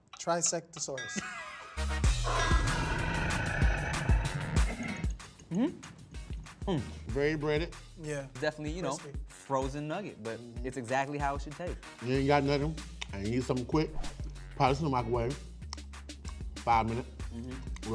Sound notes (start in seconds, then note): 0.8 upbeat music; 2.2 dinosaur roaring